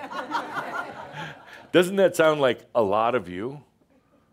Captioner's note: laughter